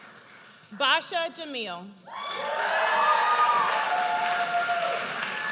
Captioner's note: audience cheers